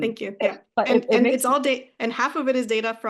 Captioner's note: speaking faintly